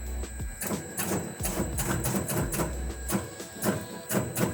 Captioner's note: machine clicks